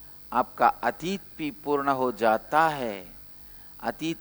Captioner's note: hindi